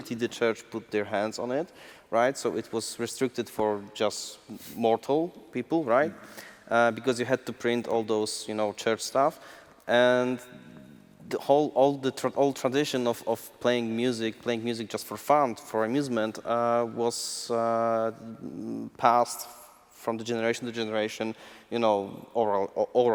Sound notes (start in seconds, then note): none